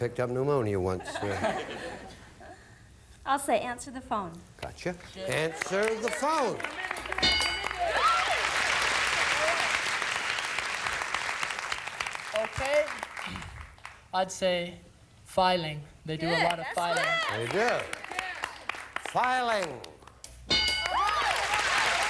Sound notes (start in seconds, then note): 0.0 audience laughing; 8.6 audience applauding